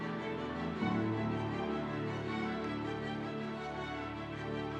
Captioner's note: audience applauding